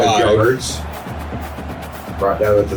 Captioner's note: crowd Noises